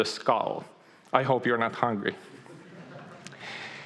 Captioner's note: audience laughing